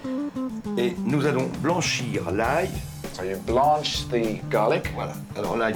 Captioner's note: continues in french